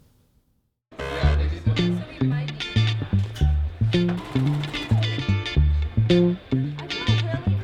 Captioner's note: students conversing; playful music